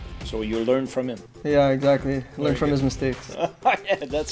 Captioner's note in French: rires